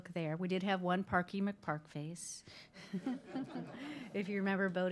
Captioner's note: group laughing